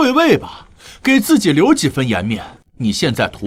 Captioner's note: gasp